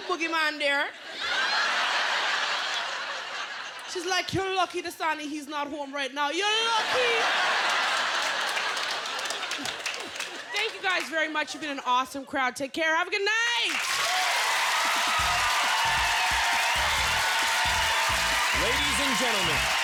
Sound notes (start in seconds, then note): 3.0 laughter; 6.7 laughter; 12.0 cheers and applause; 19.6 cheers and applause